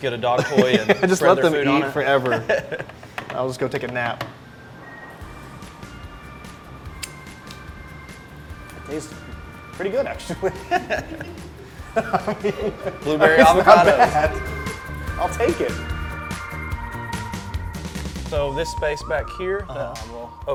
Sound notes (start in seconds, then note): 6.1 upbeat music; 10.3 everybody laughing